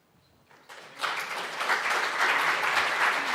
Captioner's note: applause